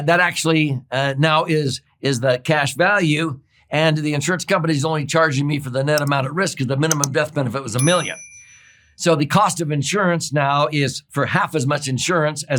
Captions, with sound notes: that actually now is the cash value, and the insurance company's only charging me for the net amount at risk (mouse clicking) 'cause the minimum death benefit was a million. (bell dings) So the cost of insurance now is for half as much insurance